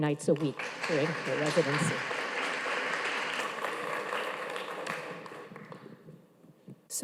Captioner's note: audience applauding